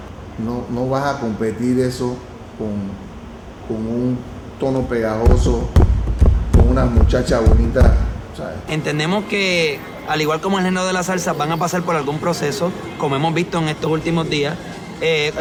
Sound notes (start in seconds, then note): 4.6 rhythmic tapping